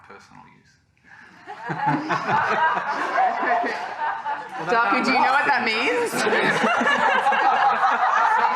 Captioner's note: laughter